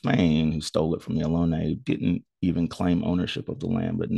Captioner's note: speaks foreign language